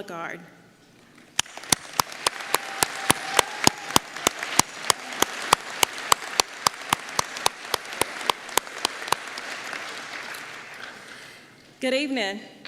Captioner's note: applause